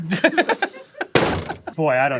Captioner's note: laughs; dense thud